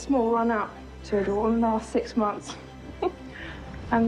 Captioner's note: laughs